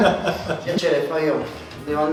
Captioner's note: laughs